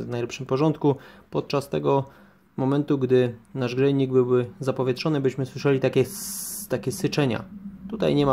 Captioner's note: air and water escaping